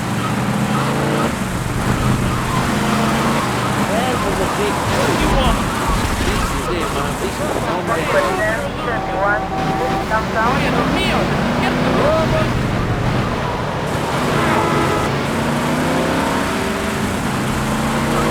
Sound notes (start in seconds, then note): 2.1 engine revving; 7.9 tires screeching; 9.7 engine revving